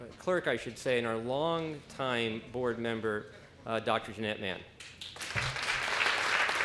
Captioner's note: applause